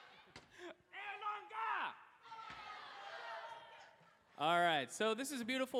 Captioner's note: screaming